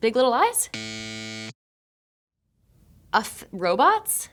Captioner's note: graphic buzzing